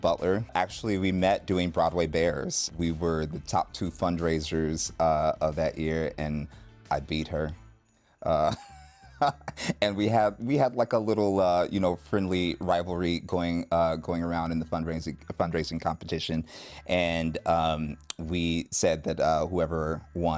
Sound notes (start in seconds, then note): 8.3 chuckles